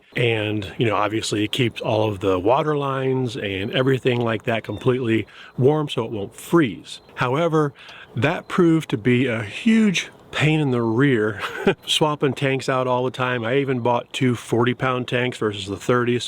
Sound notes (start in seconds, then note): 11.3 chuckles